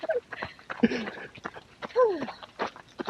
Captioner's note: chuckles